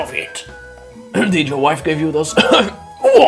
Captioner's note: cof cof